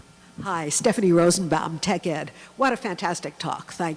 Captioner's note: voiceover